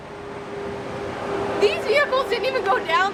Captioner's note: car engines roaring